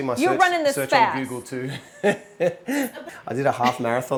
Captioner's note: chuckles